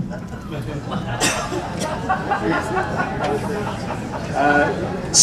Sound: nervous laughter

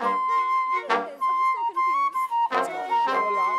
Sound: chatter as people enter

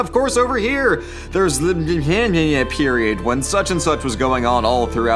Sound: mumbles

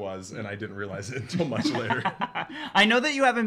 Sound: laughs

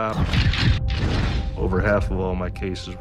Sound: camera snaps

